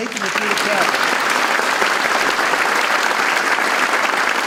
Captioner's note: audience applauding